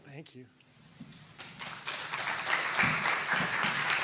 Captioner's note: applause